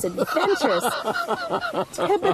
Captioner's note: laughter